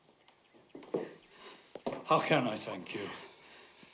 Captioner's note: sobbing